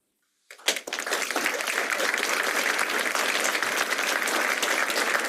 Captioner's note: applause